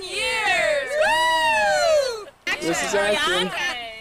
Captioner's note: group cheering